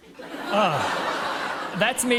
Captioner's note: laughter